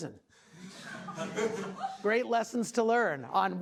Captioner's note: class laughing